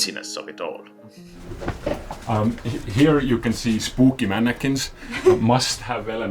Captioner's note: laughs